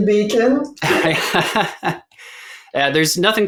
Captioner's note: chuckles